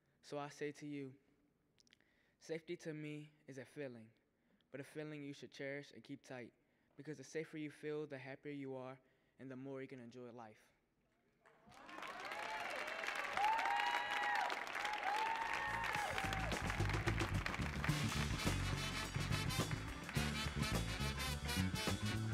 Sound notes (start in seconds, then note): 11.8 audience cheering and applauding; 15.6 funky music